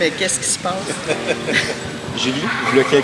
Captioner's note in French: rires